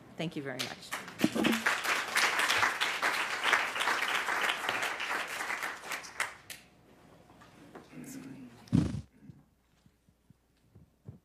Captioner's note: applause